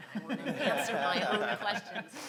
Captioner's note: laughs